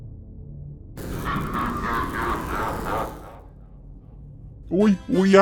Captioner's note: Evil laugher can be heard as Shotgun Man gets sent straight to hell